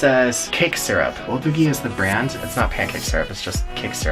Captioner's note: speaks foreign language